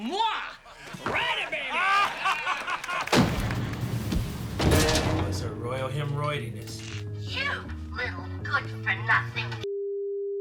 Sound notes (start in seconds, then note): 0.8 laughter